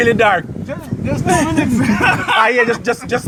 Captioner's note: laughing